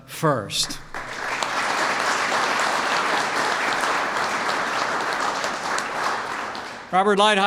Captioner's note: applause